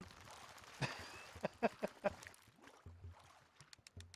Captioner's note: laughs